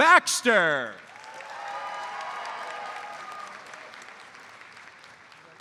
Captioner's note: audience cheers and applauds